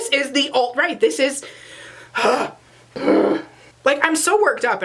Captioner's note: ugh